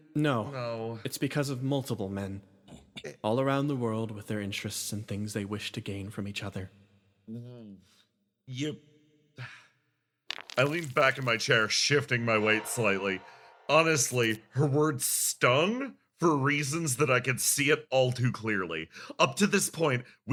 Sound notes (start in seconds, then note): 9.4 sigh